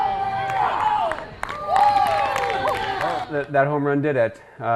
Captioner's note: cheering